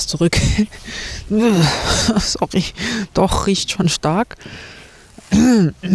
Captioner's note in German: gelächter; räuspern